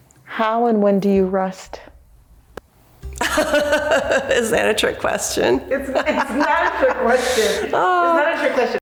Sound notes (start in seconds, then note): 3.2 laughs